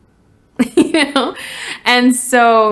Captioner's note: laughs